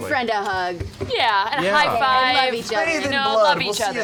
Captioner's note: laughs